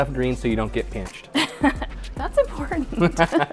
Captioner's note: laughing